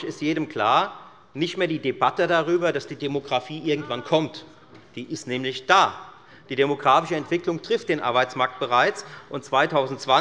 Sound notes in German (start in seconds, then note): none